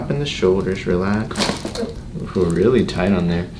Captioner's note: bones cracking